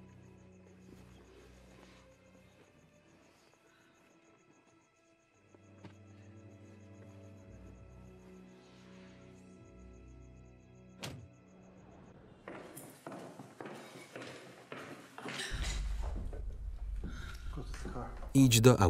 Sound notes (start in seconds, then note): 15.3 gasping